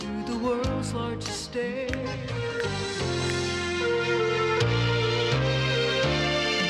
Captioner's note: snapping her fingers; mellow instrumental music